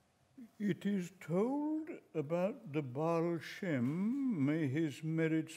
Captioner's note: trembling voice